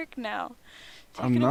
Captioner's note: inhale